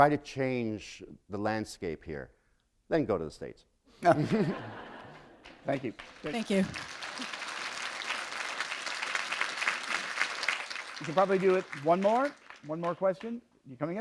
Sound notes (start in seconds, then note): 4.0 laughter; 8.3 applause